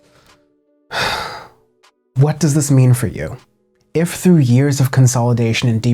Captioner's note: increasingly frustrated groan